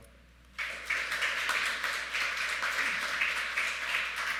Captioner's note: audience clapping